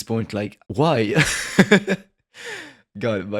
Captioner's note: laugh